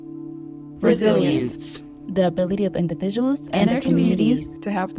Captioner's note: group recites